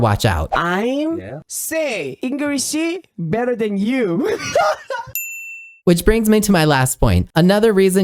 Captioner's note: speaking English